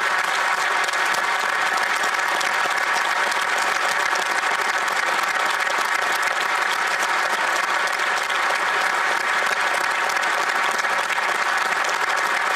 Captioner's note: applause